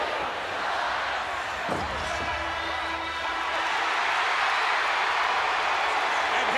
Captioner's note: applause